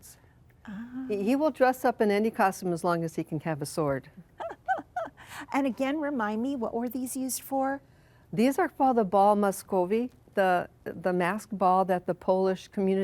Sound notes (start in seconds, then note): 4.3 laughs